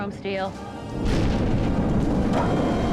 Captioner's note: crash